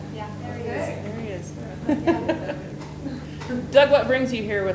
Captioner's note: laughs